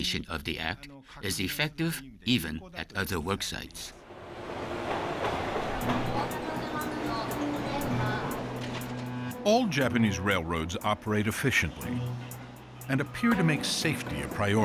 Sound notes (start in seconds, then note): 4.9 speaking Japanese